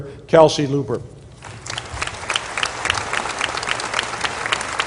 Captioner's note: applause